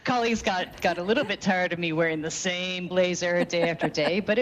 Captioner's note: laughing